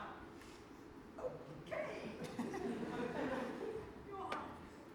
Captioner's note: audience laughs